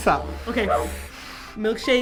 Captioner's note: deep breath